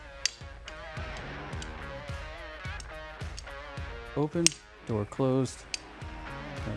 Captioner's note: clicking